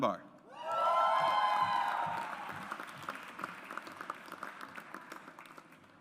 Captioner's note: audience applauds